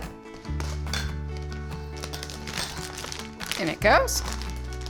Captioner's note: bright music; bag rustling; bright music